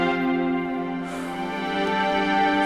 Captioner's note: Prathmesh sighs